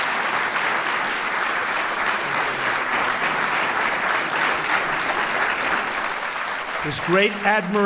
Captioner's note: applause